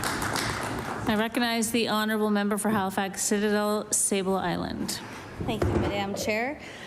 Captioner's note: applause